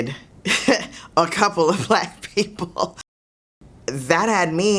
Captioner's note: laughs